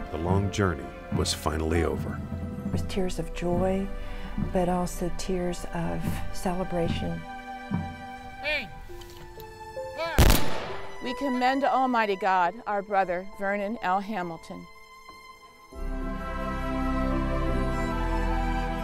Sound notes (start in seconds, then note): 10.2 gunshots; 15.8 dramatic music